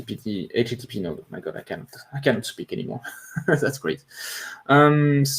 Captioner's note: chuckles